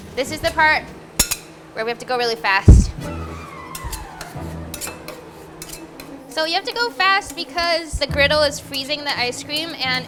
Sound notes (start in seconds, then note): 1.2 clanking; 2.7 energetic music; 3.7 scraping spatulas